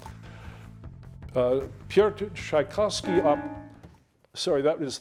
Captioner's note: timer beeping